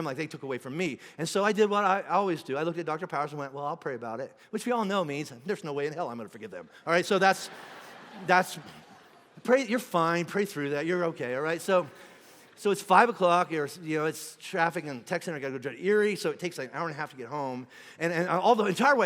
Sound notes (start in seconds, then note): 6.6 congregation laughing